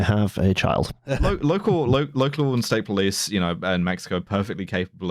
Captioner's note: laughs briefly